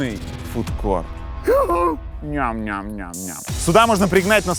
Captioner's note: exclaims in excitement